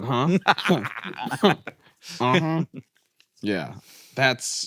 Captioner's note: laughs